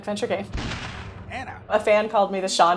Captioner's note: explosion